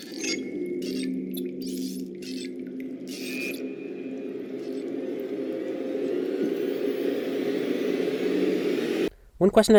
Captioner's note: audio from show